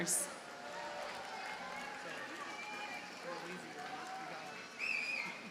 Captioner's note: audience cheers and applauds